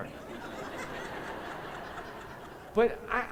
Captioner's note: laughter